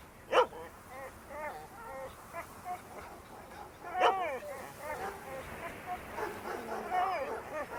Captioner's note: wind continues, dogs barking